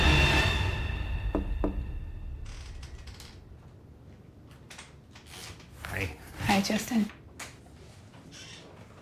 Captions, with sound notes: [music climaxes, fades] [soft knocking] Hi. Hi, Justin.